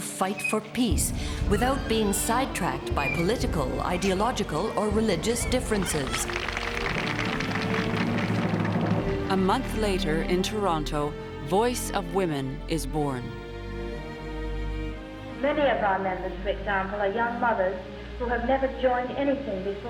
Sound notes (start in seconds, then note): 5.1 applause